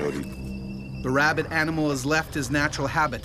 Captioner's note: voiceover